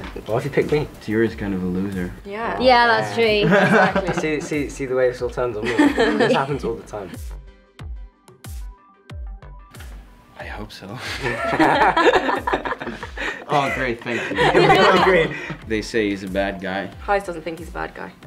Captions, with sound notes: - Why have you picked me? - Tiuri's kind of a loser. - Yeah. - Yeah, that's true. - Exactly. - See, see, see the way this all turns on me. This happens all the time. (upbeat music) - I hope so. (everybody laughs) Aw great, thank you. They say he's a bad guy. - Gijs doesn't think he's a bad guy.